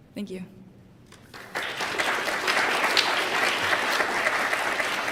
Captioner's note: applause